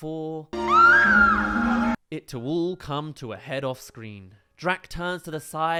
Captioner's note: scream